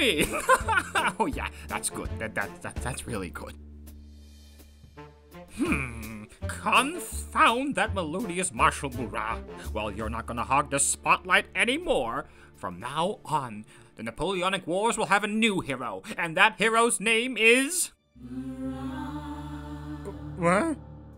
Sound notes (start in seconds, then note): 0.1 laughs; 5.3 groans